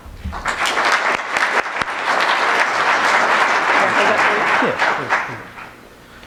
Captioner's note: applause